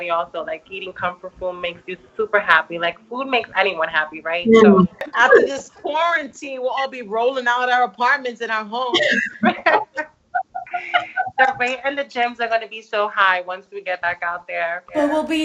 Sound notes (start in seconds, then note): 10.4 all laughs